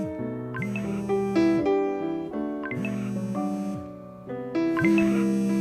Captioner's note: phone vibrating